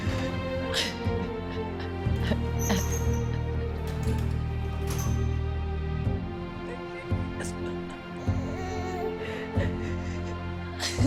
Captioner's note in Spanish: Sonido al cerrar una puerta; Sollozos